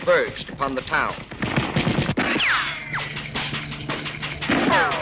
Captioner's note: guns firing